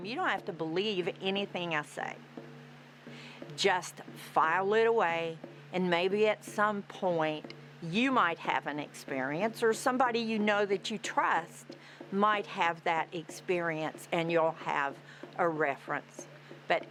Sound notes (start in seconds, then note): none